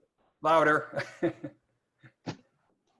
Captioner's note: laughs